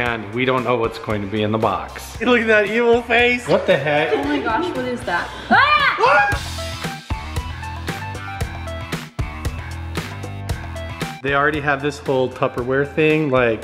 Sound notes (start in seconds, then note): 5.6 yelling; 6.6 upbeat music